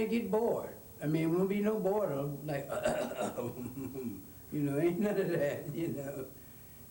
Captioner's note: mimics interrupting cough